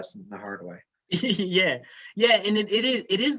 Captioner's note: laughs